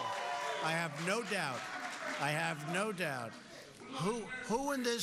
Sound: cheers

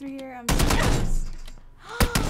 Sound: guns firing; gasps

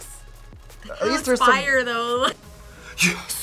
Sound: laughs

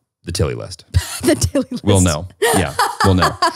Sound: laughs

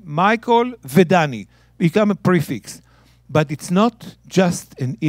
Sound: speaking in Hebrew

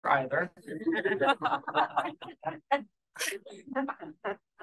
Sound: audience laughing

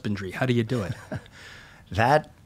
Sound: chuckling

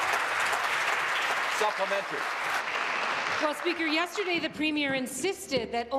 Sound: applause

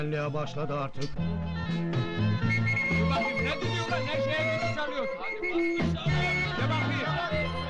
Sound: in the background students are shouting while the music goes on

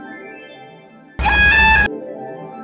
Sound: GLaDOS Scream

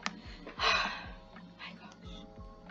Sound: sighs

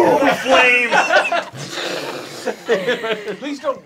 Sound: whooshing

